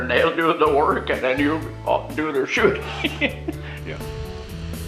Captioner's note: laughter